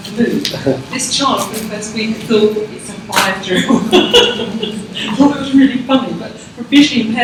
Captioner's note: laughs